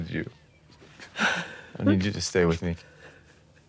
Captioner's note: Dayne sobbing